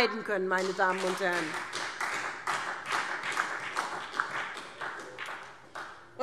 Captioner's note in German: Beifall SPD